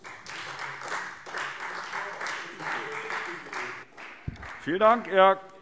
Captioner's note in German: Beifall Freie Demokraten